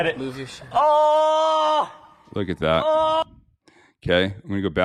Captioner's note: shouting in pain